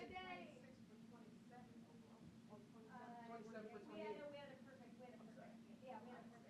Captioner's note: chatter